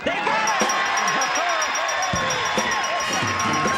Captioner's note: ding ding